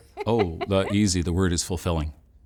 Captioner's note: laughs